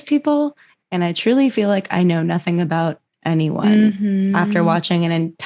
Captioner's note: mhmm